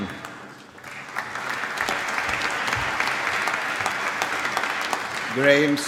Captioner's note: applause